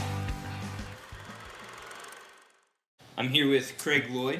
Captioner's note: film reel spooling